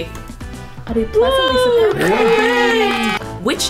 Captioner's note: cheering